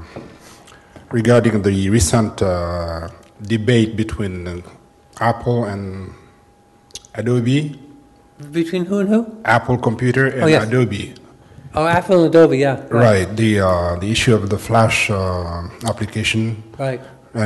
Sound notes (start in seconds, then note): none